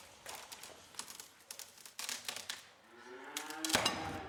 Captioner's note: wood cracking